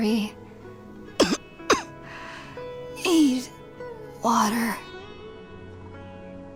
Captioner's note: cough